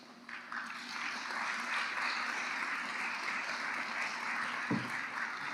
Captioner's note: applause